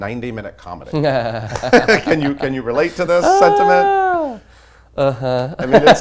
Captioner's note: laughs